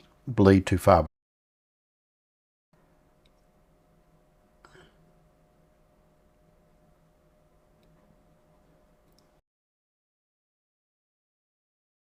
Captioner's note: silence